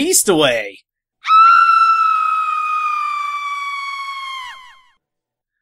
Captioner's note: Queen Chrysalis Screaming